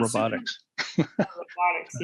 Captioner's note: laughter